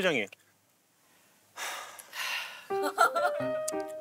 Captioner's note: sigh